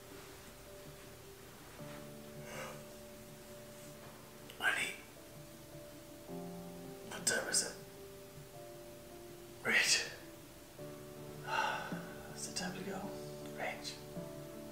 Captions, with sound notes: (dad yawning) - Honey. What time is it? Rach. Is it time to go? Rach.